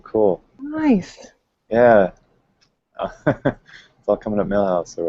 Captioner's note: laughs